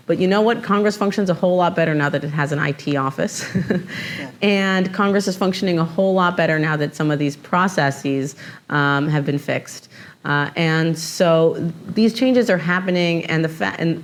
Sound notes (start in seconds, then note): 3.4 chuckles